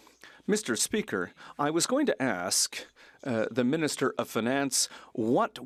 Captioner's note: speaking French